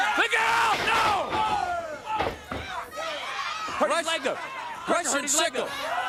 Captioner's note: crowd cheering